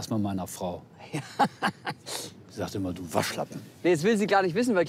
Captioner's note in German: lacht